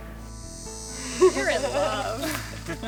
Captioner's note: laughter